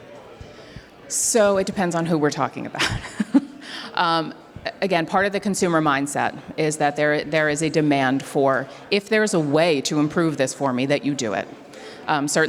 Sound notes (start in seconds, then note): 2.8 laughs